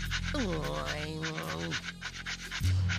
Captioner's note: grumbling